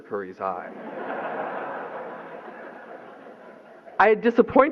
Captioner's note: laughter